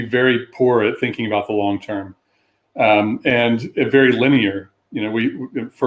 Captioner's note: erm